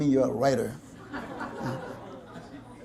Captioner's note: audience laughter